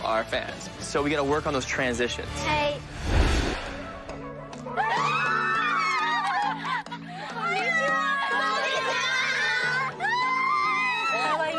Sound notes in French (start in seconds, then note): 3.8 laughter